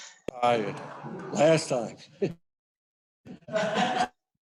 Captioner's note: laughter